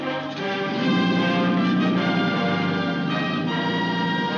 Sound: boat engine starts

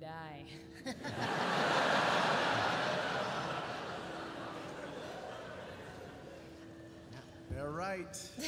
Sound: laughter

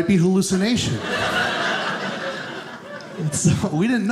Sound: audience laughing

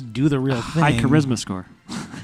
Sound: laughs

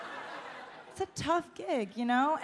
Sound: audience laughs

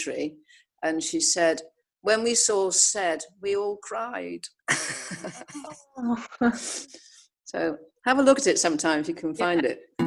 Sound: laughs

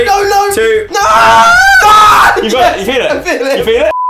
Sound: screams

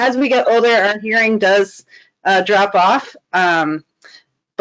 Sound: none

